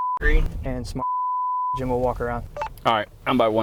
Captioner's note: beep; beep